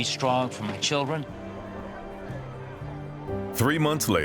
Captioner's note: tense music; people chattering